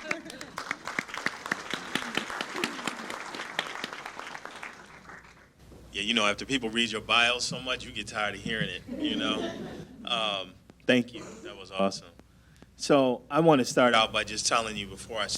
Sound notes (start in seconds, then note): 0.0 crowd applauds; 8.8 laughter